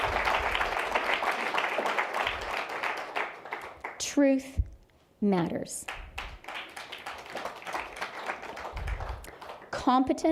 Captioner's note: applause; applause